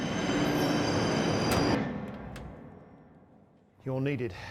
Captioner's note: train hissing